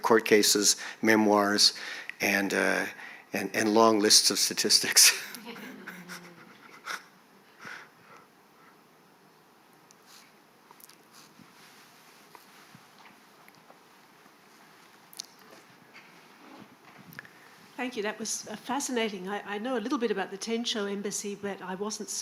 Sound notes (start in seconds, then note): 5.0 chuckles